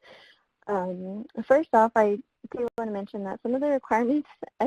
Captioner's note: voice muffled